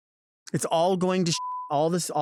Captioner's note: beep